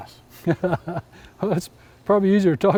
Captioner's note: laughs